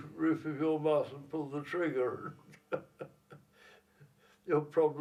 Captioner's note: chuckles